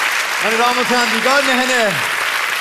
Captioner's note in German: Applaus